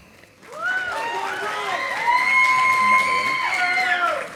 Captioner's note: audience applauding